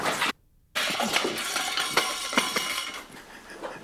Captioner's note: metal clanging